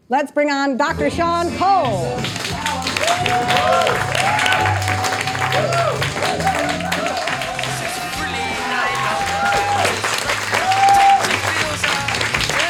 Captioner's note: audience applauding, cheering